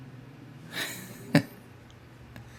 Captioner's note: laughing